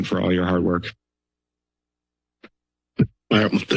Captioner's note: silence